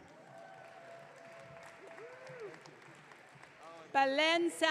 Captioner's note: audience cheering